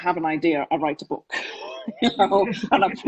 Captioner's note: laughs